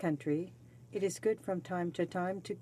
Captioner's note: speaking French